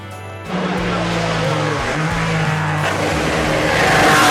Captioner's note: car engine sounds